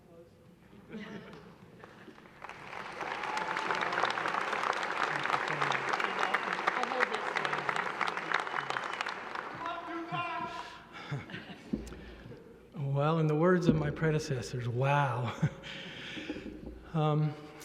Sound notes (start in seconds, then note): 2.3 applause